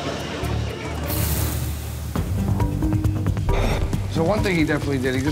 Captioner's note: food sizzles